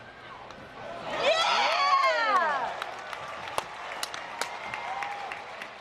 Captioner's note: yeah!!!! Clapping